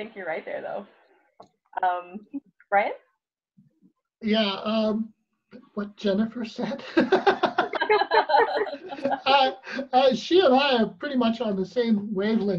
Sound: laughs

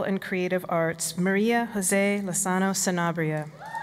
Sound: applause

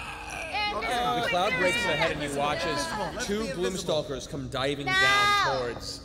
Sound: screeching

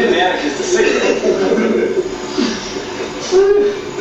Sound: laughter

